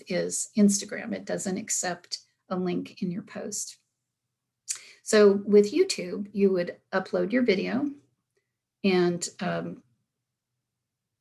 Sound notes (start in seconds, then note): none